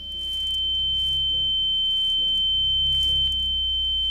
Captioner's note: shrill tone blaring